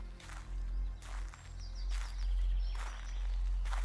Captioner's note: footsteps thumping